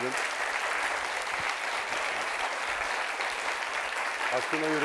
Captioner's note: applause